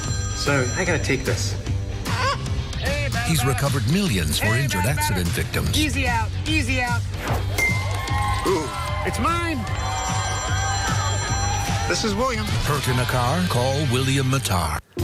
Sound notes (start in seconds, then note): 9.8 phone ringing